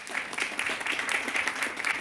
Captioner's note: applause